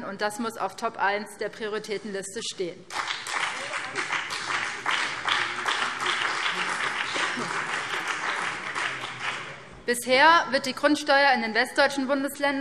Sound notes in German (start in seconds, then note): 2.8 Beifall BÜNDNIS 90/DIE GRÜNEN und vereinzelt CDU